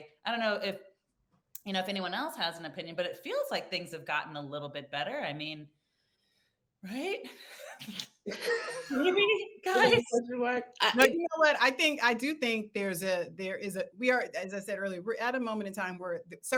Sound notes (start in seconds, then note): 9.6 participants laugh